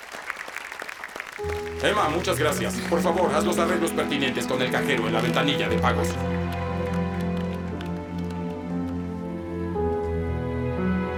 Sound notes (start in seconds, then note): 3.3 audience applauds; 6.5 slow orchestral music